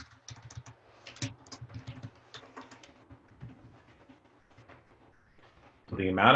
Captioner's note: typing